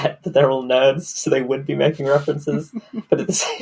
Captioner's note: laughing